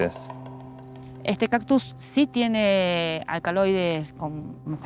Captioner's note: speaking Spanish